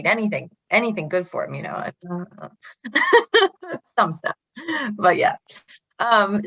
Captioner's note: laughs